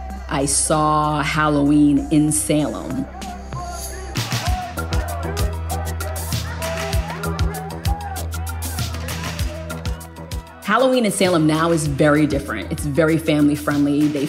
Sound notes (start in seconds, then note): 2.1 indistinct clamoring; 3.5 intense music